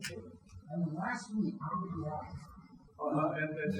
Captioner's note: speaking faintly